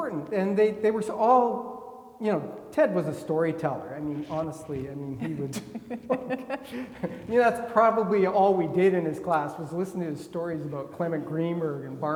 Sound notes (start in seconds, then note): 5.1 laughing